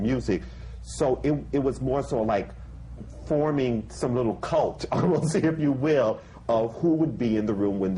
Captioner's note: laughs